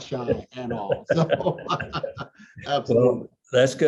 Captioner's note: both laugh